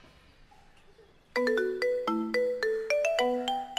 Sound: phone ringing

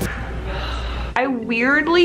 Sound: sighs

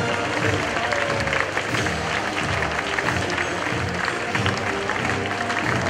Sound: audience applauds

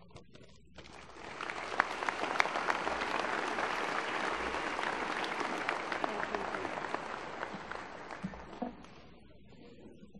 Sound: applause

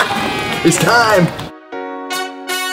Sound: triumphant music plays; crowd cheers

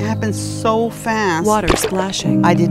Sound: water splashing

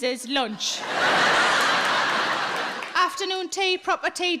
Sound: audience laughing

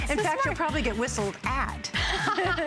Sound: laughter

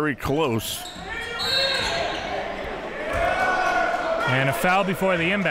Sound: whistle blows

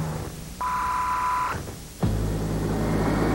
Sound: modulated 1KHz sine wave tone

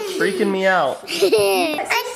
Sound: laughter

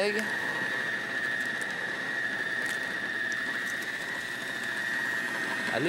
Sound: food processor blending; egg cracking

